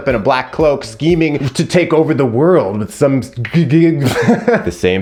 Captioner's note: laughs